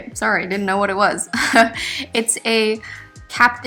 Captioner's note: laughs